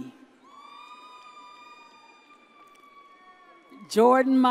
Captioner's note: audience cheers